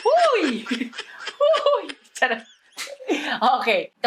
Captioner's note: giggles